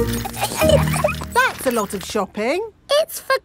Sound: laughing

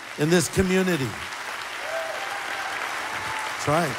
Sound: applause

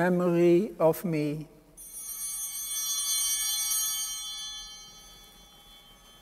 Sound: altar bells ringing

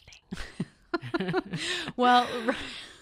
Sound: laughing

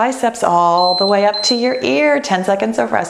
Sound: timer beeps

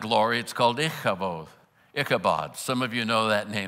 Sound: foreign language

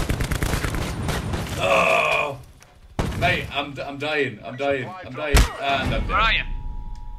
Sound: gunbutt thud

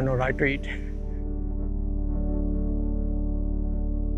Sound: laughs

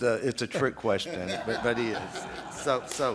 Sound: laughter

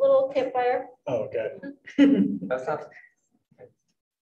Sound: group chuckles

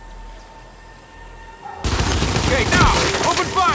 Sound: gun fires

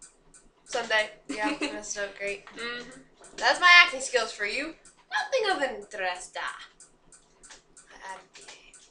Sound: Prussia laughing as usual >:D

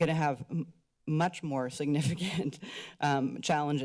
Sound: chuckles

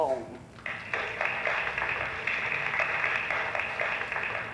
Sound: applause

